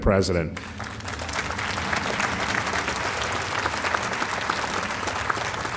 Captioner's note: audience applauding